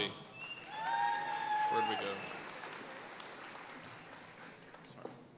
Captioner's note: audience cheering and applauding